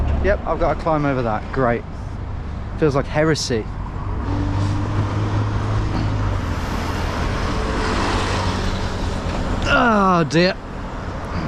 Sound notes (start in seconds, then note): 4.5 traffic whirring